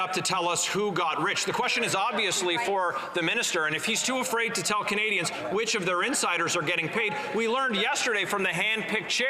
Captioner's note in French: voix de l'interprète